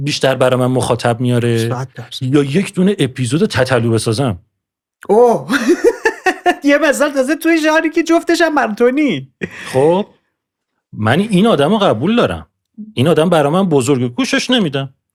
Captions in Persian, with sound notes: بیشتر برای من مخاطب میاره یا یک‌دونه اپیزود تتلو بسازم؟ - اوه! (خنده) یه مثال تازه تو یه ژانری که جفتش هم برای تو نیست - من این آدمو قبول دارم این آدم برای من بزرگه، گوشش نمی‌دم